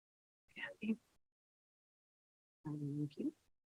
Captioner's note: silence